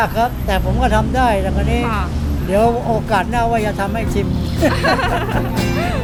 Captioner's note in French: rires